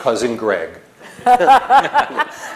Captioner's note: laughter